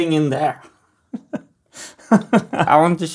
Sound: chuckles

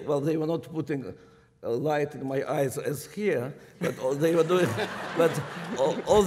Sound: laughter

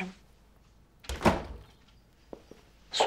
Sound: the door closing sound

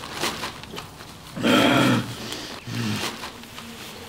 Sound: growls

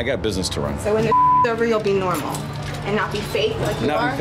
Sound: beep

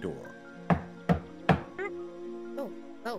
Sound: knocking

